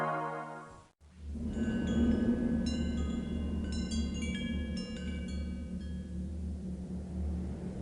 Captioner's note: wind chimes clattering